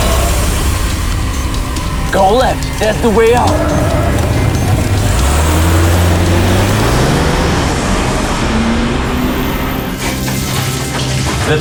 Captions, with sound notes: (tires squealing) Go left, that's the way out. (dramatic music)